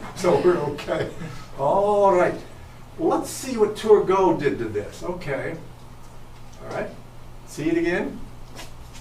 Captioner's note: chuckles